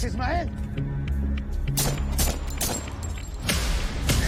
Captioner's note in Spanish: Disparos